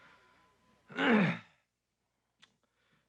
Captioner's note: clears throat